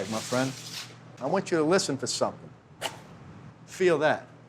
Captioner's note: quick chopping sound